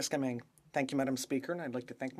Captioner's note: speaking French